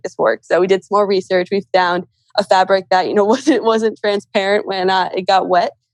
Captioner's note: laughs